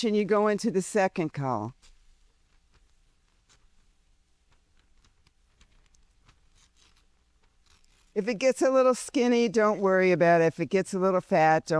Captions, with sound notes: and you go into the second column. (paper ripping) If it gets a little skinny, don't worry about it. If it gets a little fat,